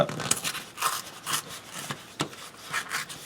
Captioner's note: tearing sounds